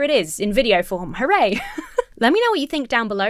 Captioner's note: laughs